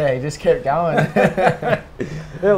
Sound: laughs

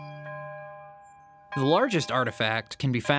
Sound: church bells ringing

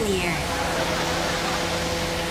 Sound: laughing

